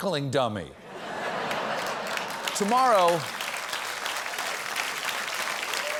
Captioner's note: applause